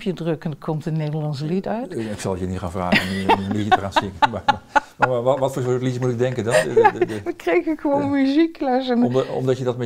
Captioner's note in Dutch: Lacht